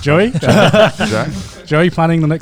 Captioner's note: laughs loudly